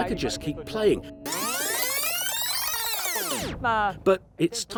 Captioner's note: speaking in foreign language; tape scratches